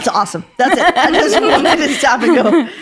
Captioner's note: laughing